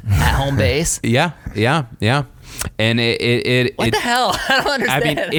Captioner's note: laughs